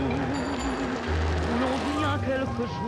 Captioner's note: bells ding